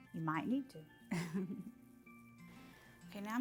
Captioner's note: laughs